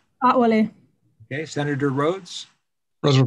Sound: speaking foreign language

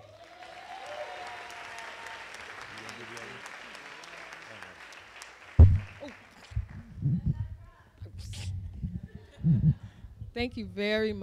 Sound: applause

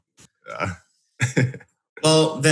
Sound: laughs

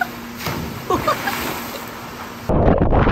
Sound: laughing

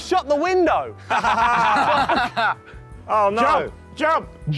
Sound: laughing

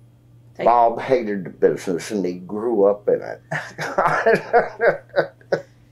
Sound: laughs

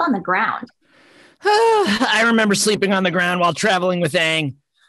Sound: sighs

